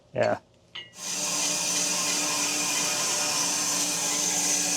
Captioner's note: saw buzzing